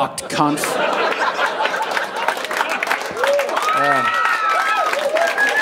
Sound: audience cheering and clapping

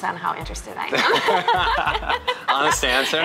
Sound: laughs

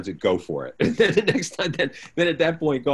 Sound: laughs

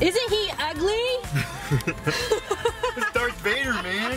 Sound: laughing

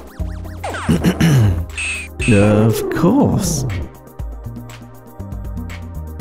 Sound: clears throat

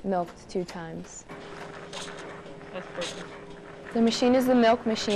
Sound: maching humming

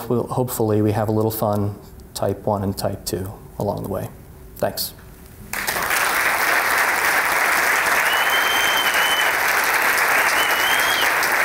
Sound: applause

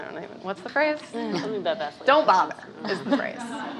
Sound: laughing

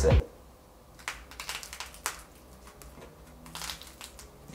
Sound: crackling

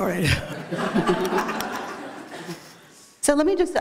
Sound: laughter

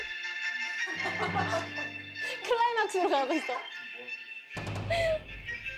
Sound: the ringtone is going to the climax

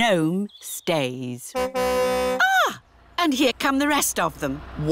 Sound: car horn tootles

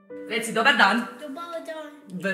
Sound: childish speech

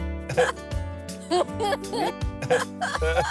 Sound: both laughing

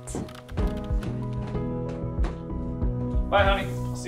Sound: footsteps on stairs

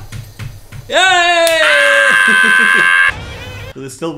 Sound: laughs

